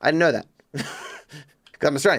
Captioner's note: laughs